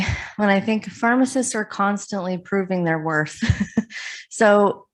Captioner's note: laughs